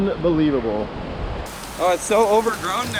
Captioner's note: rain pouring